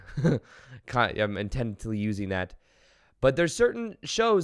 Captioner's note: giggles